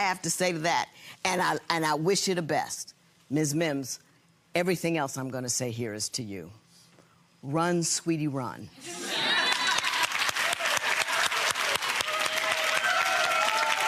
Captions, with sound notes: That's all I have to say to that. And I wish you the best. Run sweetie run. (audience applause)